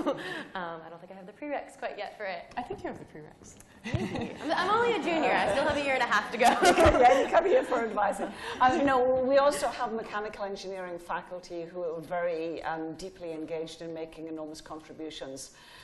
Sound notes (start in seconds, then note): 6.4 laughing